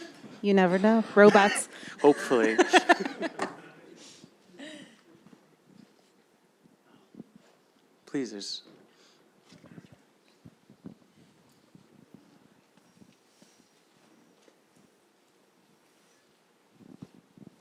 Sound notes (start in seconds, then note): 2.0 laughs